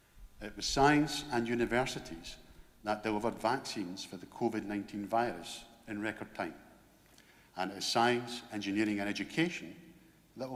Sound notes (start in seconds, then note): none